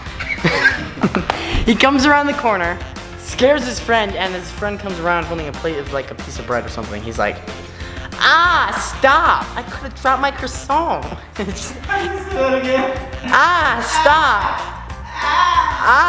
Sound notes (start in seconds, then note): 0.0 laughing; 11.1 laughs